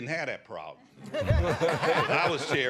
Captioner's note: laughter